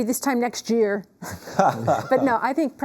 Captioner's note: laughs